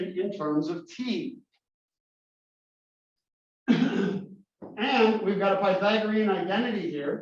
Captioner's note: cough